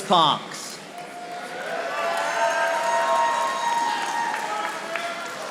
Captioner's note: audience applauding